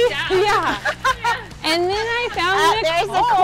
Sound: laughter

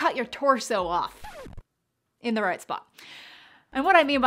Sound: record scratch

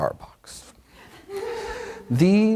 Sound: audience laughs

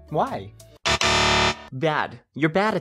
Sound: incorrect buzzer sound

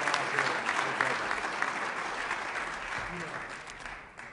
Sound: applause

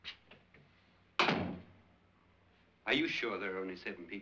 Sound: door closes

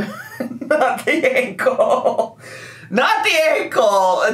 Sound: laughing

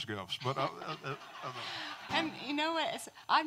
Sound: audience laughing

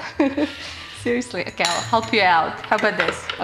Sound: laughs

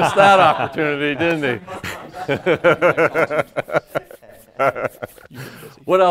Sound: laughter

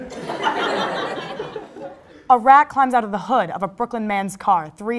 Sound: crowd Laugh

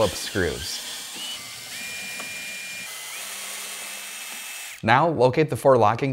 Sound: screwdriver whirring

